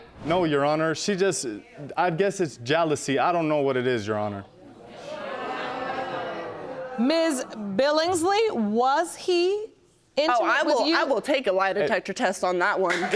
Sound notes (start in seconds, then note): 4.9 audience exclaiming